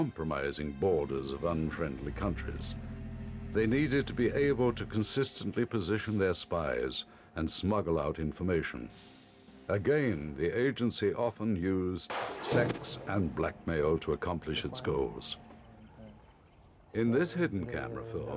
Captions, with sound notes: These elite troops under the GRU would penetrate countries when the war became eminent to perform military sabotage. Some would blow up strategic targets, such as power station, bridges and communication centers. (gunshots blast) Others would form assassination squads to kill American leaders and their families.